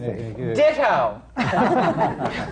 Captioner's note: laughter